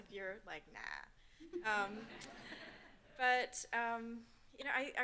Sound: audience laughing

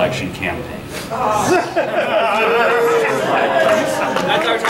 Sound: audience groaning and jeering

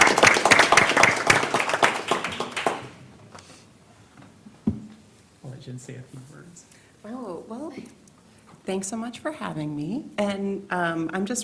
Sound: applause

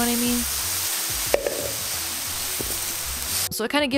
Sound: pan sizzling

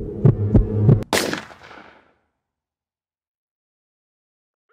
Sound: gunshot

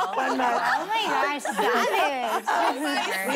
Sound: laughing

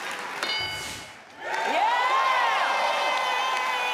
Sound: crowd cheering

